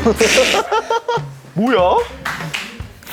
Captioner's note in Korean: 주전자 끓는 소리.wav